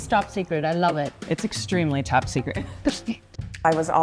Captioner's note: laughs